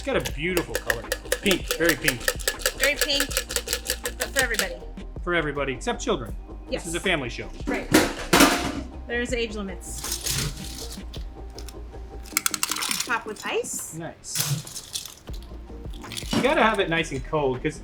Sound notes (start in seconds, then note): 0.0 shaker taps against strainer; 9.9 shaker clangs; 15.8 ice pours